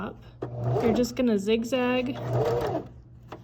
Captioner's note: sewing machine hums